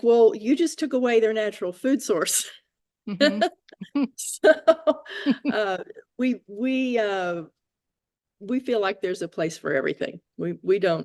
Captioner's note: laugh